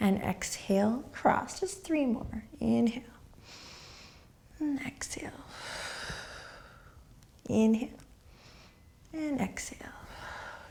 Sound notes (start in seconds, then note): 3.5 inhaling; 5.9 exhaling